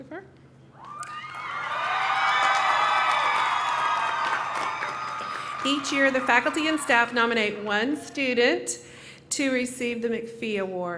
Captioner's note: cheering